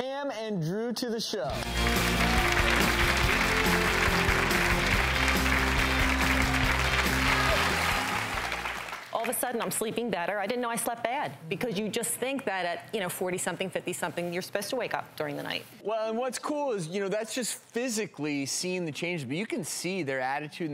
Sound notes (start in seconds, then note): 1.5 upbeat music; 1.5 applause